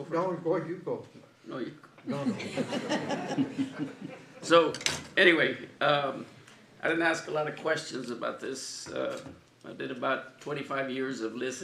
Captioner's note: laughter